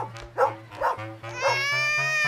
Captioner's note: baby crying